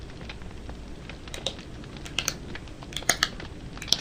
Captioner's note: tapping